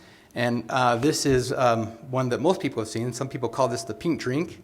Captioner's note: none